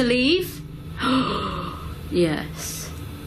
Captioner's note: gasps